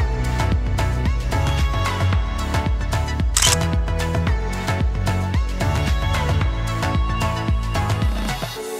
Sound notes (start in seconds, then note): 3.3 camera clicks